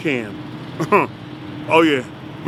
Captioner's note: laughs